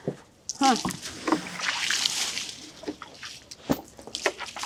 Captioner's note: liquid splashing